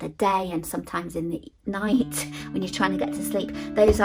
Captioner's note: chuckling